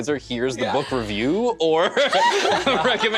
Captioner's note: laughter